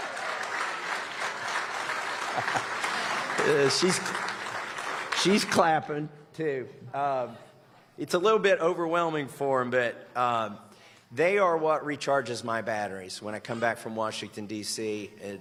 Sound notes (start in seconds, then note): 0.0 applause; 3.3 applause